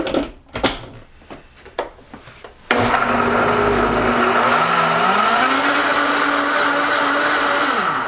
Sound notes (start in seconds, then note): 2.6 whirring